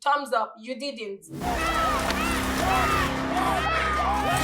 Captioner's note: yelling; intense, suspenseful music